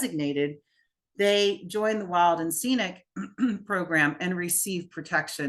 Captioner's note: clears throat